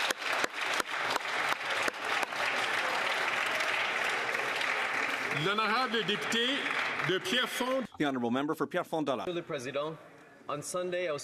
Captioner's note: some Applause